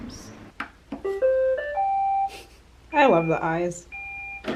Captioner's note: machine turning on